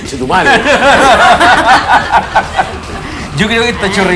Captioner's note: laughs